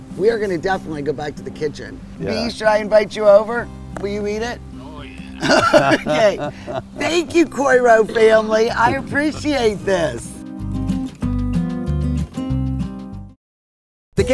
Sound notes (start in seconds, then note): 4.9 laughs loudly; 10.5 calm instrumental music